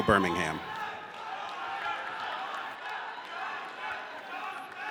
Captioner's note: audience cheers